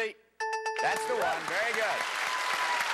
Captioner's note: dings; applause